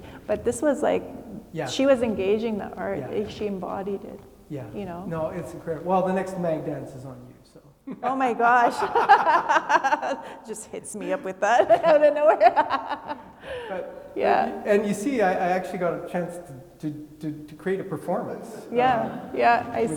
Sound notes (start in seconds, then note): 8.4 laugh; 13.2 laughs; 19.0 attendees laughing